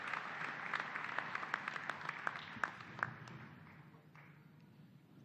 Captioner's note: applause